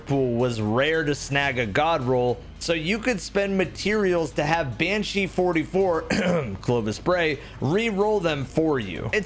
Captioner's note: ahem